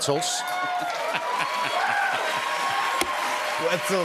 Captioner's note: cheers and applause